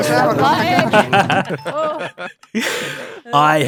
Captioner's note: laughs